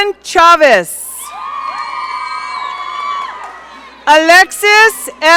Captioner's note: audience cheering